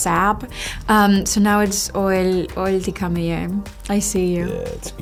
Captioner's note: speaking na'vi